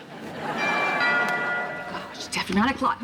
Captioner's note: doorbell chimes